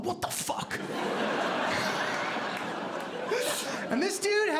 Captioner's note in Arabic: ضحك